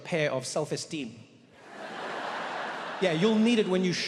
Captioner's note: audience laughs